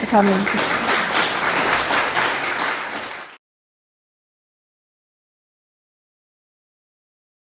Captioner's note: applause